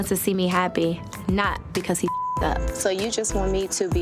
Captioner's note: beep